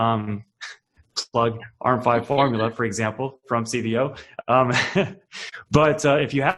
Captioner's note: laughing